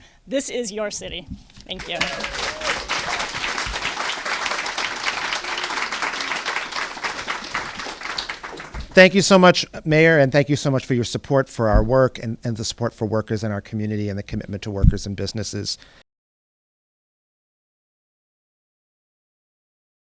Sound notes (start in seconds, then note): 1.7 applause